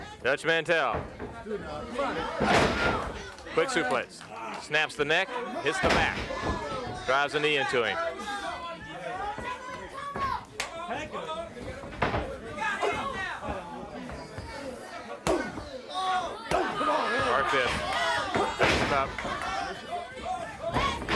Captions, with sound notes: Dutch Mantel. (body thudding) Quick suplex snaps the neck hits the back, (knees thudding) drives the knee into him. You got him now. (blows thudding) (blows thudding) (footsteps plodding)